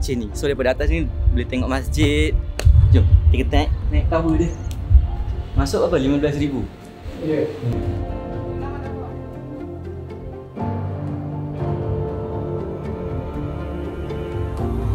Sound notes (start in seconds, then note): none